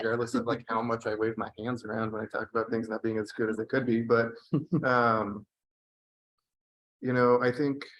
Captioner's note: laughter